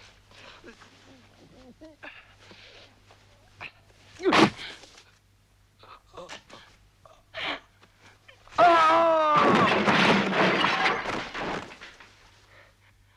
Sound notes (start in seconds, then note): 4.4 Rothrar groans; 4.4 knife stabs; 8.6 Rothrar shouts; 9.5 pottery clatters